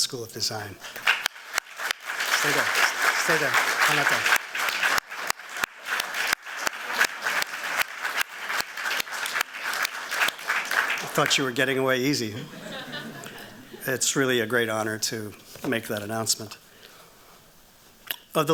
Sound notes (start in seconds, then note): 0.7 applause